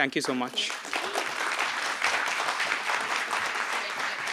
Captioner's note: applause